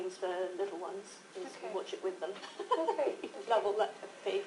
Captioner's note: laughter